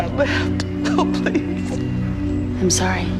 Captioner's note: crying